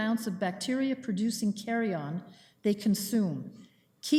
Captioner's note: none